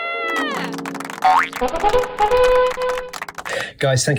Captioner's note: applause